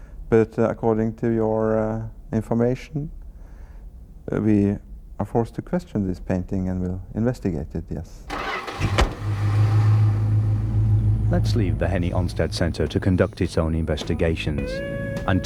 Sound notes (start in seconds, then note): 8.3 engine whirring; 8.7 car door thuds